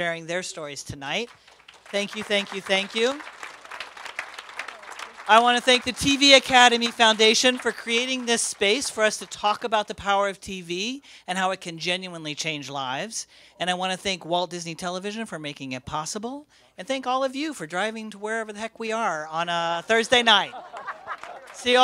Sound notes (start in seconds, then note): 3.2 applause; 20.1 laughter